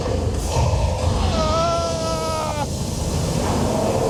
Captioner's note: screaming